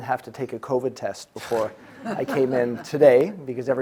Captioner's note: audience laughing